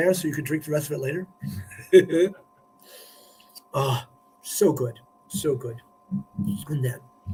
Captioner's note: laughter